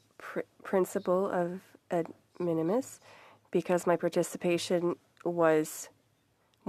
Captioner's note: speaking French